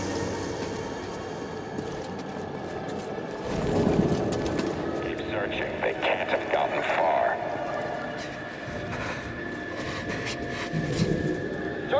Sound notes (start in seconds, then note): 7.8 frightened breathing